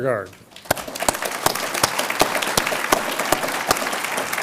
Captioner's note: audience applauds